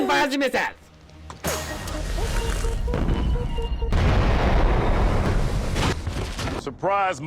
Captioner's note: explosion